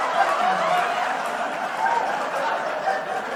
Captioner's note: laughter/Applause